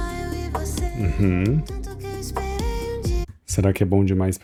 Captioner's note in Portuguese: limpando a garganta